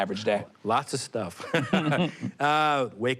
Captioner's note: both laugh